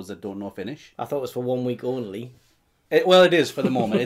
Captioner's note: laughs